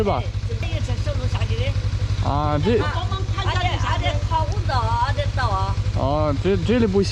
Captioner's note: speaking their dialect